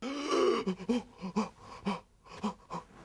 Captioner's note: gasps